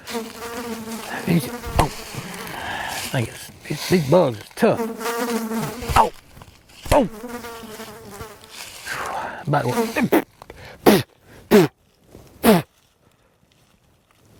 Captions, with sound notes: These... Oh! These bugs is tough. (bugs buzzing) Ow! Oh! (spitting)